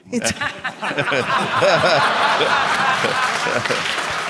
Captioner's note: audience laughing; audience applauding